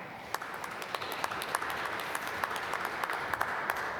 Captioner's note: applause